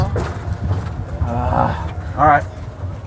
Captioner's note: grunts